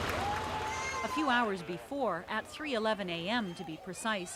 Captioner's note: cheering